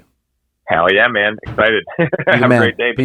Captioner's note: chuckles